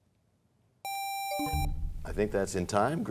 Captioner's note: buzzer sound, bell chimes